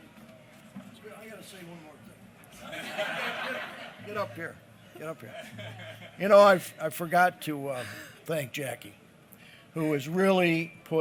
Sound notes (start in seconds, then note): 2.5 laughter